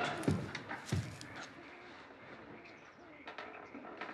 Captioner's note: nature sounds